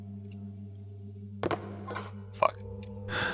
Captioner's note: loud tapping on wood